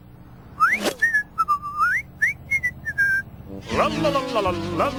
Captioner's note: whistling